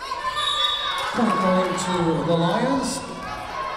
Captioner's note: whistle blowing